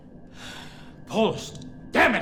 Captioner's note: sighs